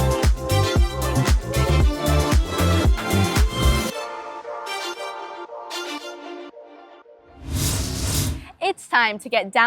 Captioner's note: upbeat music plays; scene change whoosh